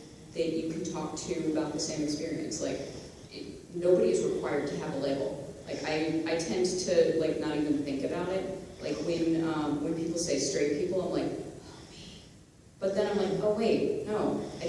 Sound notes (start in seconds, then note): 11.5 whispers